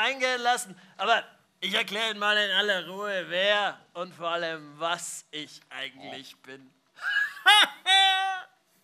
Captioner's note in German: lacht